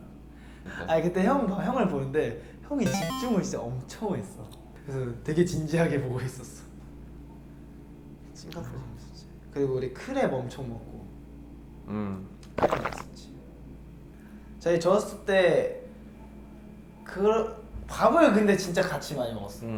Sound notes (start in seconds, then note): 12.5 gulp